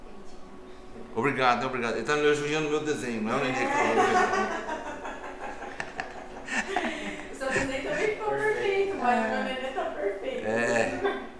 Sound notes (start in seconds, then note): 3.7 all laugh